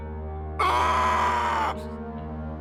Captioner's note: screaming